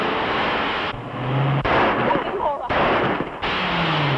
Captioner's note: gunshots